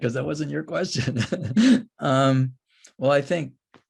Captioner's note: laughs